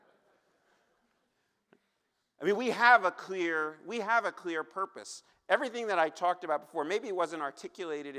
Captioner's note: laughter